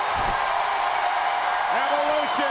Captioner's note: audience cheers